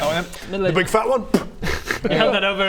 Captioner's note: spit